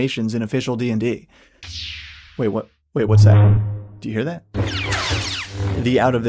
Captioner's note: Lightsaber / blaster sound effects